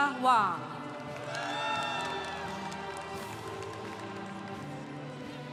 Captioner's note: congregation applauding